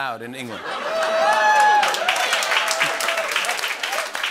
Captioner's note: cheering and applause